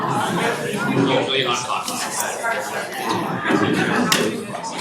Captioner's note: audience chattering